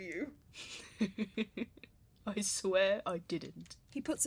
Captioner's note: James laughs